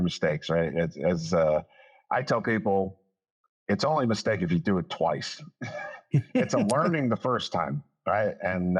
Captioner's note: laughs